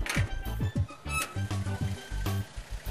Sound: gate creaks

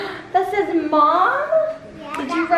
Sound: gasps

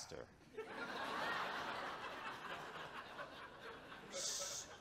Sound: audience chuckles

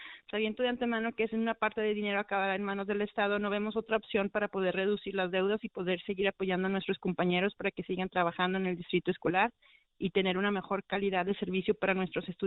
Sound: speaking spanish

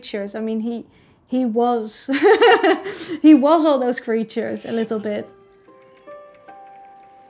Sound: laughs

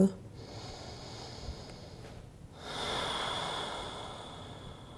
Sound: inhales and exhales

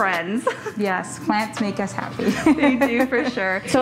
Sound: laughs

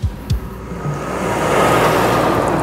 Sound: truck passing

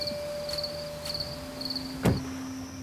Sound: insects chirping; door closes

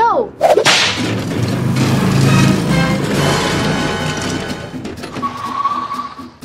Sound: gasps; dramatic music; vehicles whirring

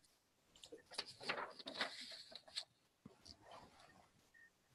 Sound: papers shuffling

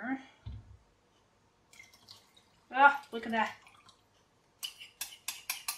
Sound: sound of liquid pouring

